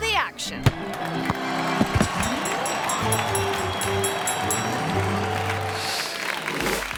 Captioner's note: ball thumps; audience applauding; bell dinging